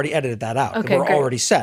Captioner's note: laugh